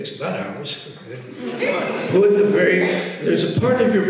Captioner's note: audience laughs